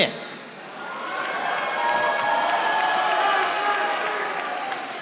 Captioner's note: audience applauding